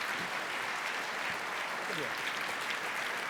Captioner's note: applause